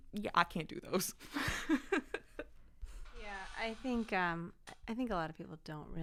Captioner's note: laughter